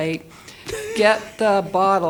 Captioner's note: panelists laughing